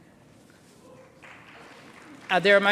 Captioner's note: applause